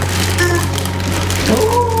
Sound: honk

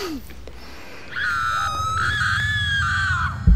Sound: screams

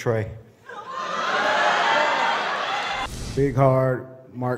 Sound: laughter

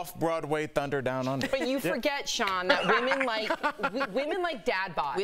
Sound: laughter

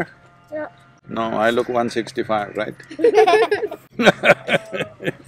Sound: laughter

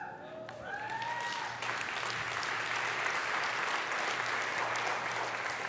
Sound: congregation cheers and applauds

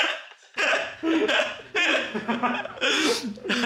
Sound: Baby Bread is crying

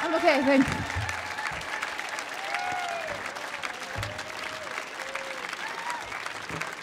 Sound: audience applauding and cheering

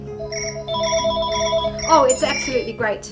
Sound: phone ringing

